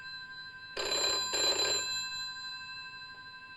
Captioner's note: phone rings